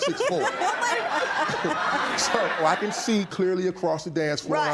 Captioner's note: laughter